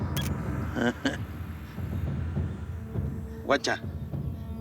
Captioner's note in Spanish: clic